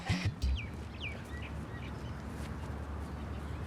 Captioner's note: birds tweet